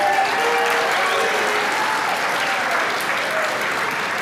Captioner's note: applause